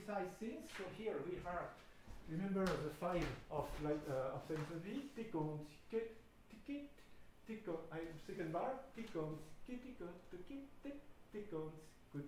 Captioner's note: humming